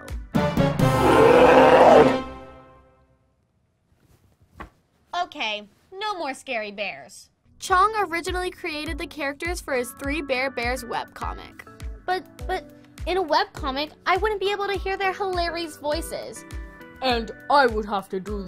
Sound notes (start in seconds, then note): 0.4 dramatic music; 0.8 bear growling